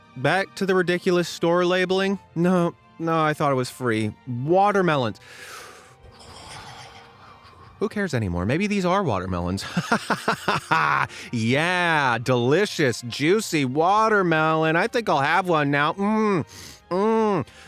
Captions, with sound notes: Back to the ridiculous store labelling? No, I thought I was free… Watermelons!? [inhales and exhales deeply] Who cares anymore. Maybe these are watermelons! [laughs maniacally] Yeah, delicious, juicy watermelon! I think I’ll have one now! [moans]